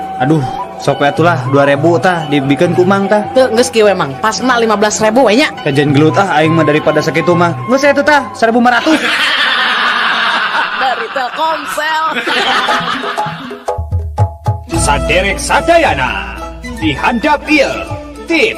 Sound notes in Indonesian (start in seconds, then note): 12.9 tertawa